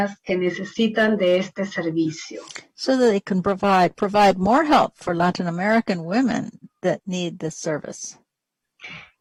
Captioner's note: speaking spanish